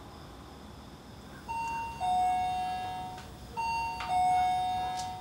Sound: doorbell rings

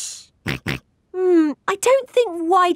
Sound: snorts

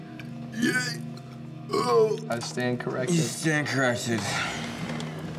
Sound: burping

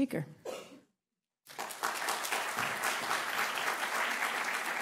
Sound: applause

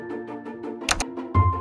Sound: click!

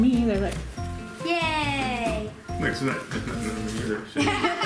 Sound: stammering; everybody laughing

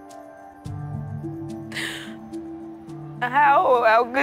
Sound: gasps; crying

